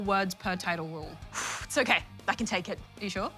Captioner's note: exhales heavily